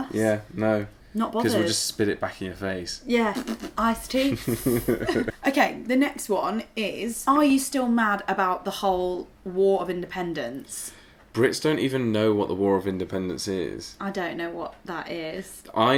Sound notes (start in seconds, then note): 3.3 laughing